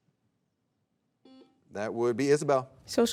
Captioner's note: soft beeping